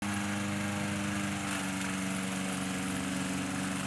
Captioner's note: lawnmower rumbling